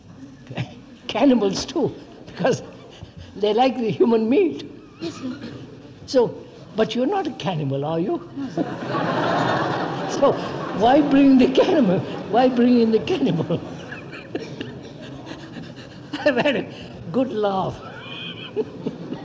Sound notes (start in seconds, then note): 0.5 laughs; 10.1 laughter; 14.6 laughs